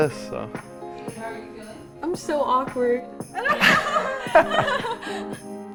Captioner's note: laughs